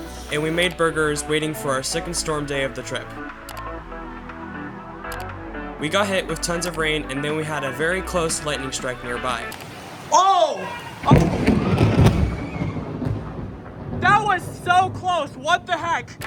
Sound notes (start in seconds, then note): 5.8 voiceover; 11.0 loud thunder